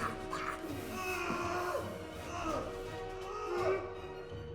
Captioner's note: growls